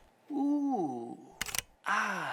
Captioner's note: camera clicking